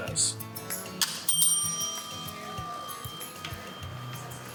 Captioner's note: light music continues; bell rings